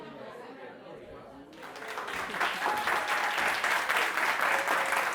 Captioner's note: applause